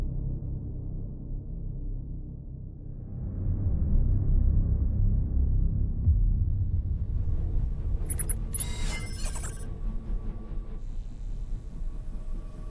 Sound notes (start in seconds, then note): 8.0 readout sliding and beeping